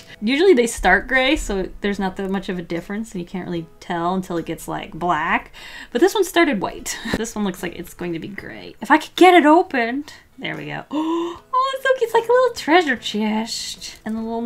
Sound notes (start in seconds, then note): 10.9 gasps